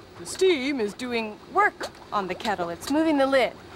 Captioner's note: normal voice